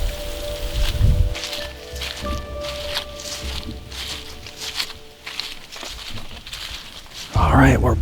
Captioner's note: soft music, light wind; sound of walking